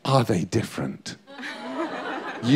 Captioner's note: laughter